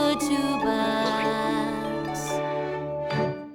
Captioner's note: humming